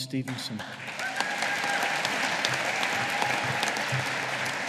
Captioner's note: audience applauding